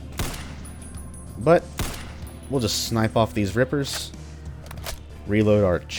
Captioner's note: gunfire; moar gunfire